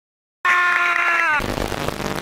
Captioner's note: screaming